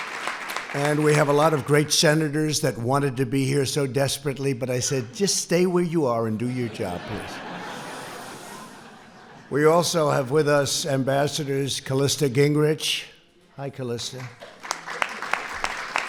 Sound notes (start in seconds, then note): 6.4 laughter; 14.1 applause